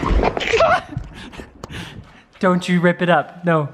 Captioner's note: shouting